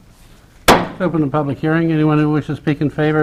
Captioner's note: mayor bangs the gavel